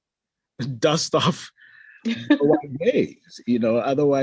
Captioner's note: laughs